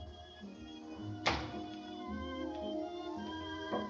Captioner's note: door Closes